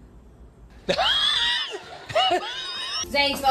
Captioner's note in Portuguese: risos